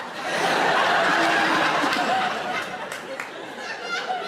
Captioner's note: audience laughs